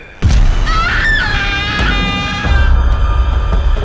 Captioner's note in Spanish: sibilancias del cadáver; Debra grita; música intensa